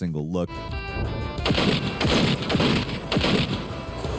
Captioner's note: guns popping